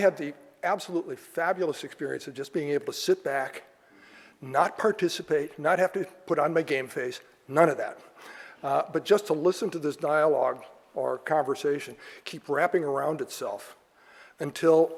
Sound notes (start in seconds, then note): none